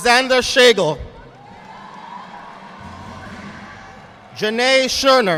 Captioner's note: audience applauding